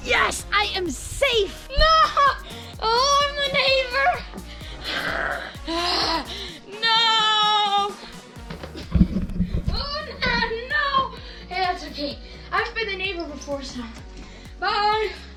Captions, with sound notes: Yes, I am safe! - No, oh, I'm the neighbor. (growling) Ugh, No! No! Hey, that's okay, I've been the neighbor before. So, bye.